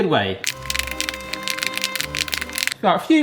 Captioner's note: utensil clicks